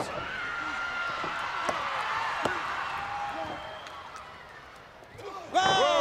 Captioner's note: crowd cheering